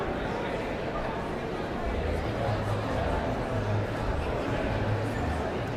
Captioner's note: audience chattering continues